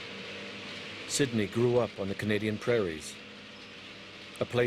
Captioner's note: voiceover